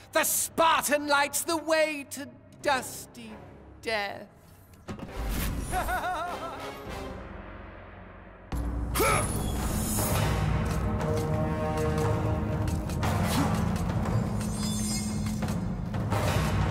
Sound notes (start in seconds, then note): 5.7 laughs